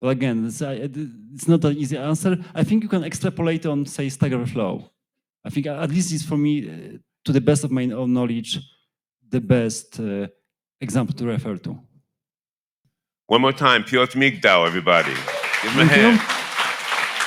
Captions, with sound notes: Well again, it's not an easy answer. I think you can extrapolate on say stack overflow. I think, this is for me, to the best of my own knowledge, the best example to refer to. - One more time, Piotr Migdal everybody. (audience cheering) (audience clapping) Give him a hand. - Thank you.